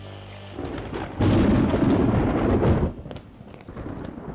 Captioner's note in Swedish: åska